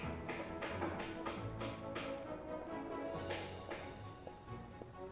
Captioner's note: hammering